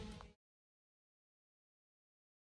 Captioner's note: none